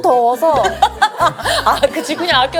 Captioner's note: laughs